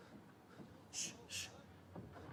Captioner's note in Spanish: murmullos